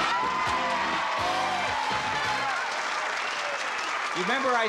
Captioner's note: cheers, applause